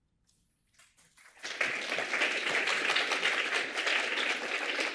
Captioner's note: applause